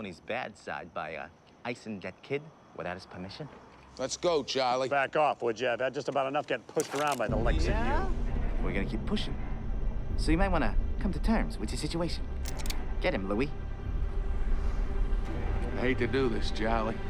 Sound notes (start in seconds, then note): 12.4 gun clicks